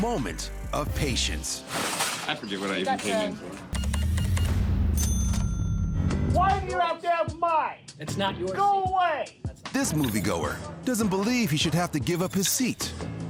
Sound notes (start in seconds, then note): 5.6 cash register beeping, dings